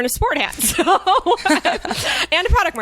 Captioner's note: laughs